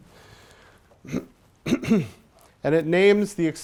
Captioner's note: clears throat